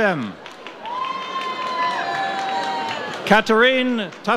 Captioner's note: audience cheers